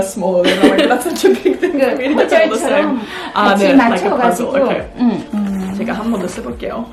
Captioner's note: speaking drowned out by laughter